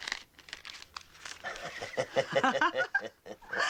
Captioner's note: Riéndose